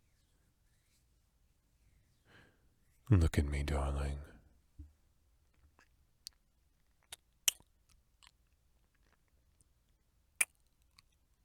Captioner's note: kiss